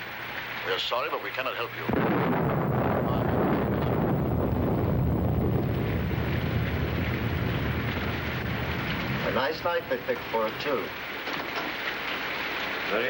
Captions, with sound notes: We are sorry but we cannot help you. (thunder cracking) - A nice night to pick for it too.